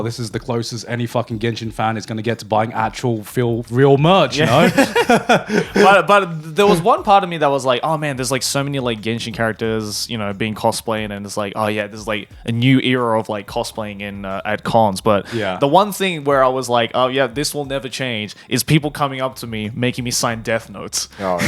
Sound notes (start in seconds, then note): 4.3 laughing